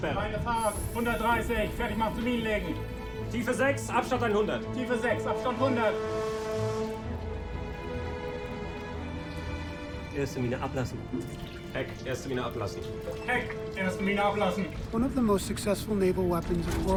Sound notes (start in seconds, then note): 0.0 man speaking in foreign language; 4.8 speaking in foreign language; 10.3 speaking in foreign language